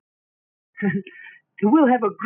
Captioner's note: laughs